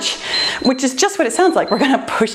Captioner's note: timer beeps